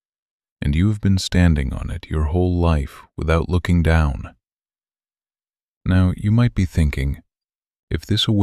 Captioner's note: low voice